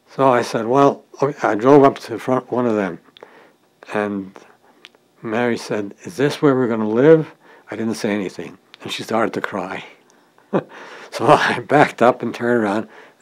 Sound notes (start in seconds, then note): 10.4 chuckle